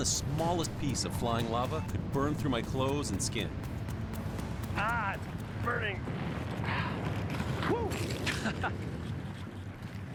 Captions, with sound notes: Even the smallest piece of flying lava can burn through my clothes and skin. Aah, it’s burning. [sighs] Whoo. [chuckles]